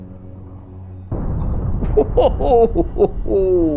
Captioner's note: explosions rumbling